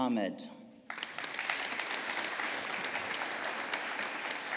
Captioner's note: audience applauding